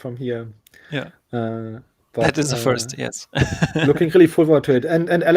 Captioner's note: laughing